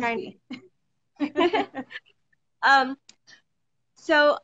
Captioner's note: both laughing